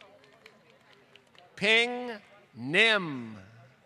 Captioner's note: applause